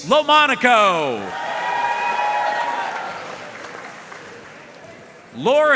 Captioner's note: audience cheering and applauding